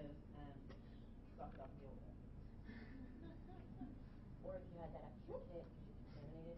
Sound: laughing

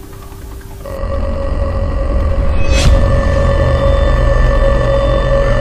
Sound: creature groans

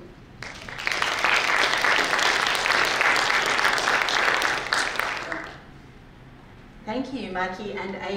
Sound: applause

